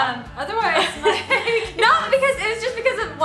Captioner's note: laughs